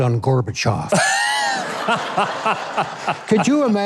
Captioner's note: crowd laughing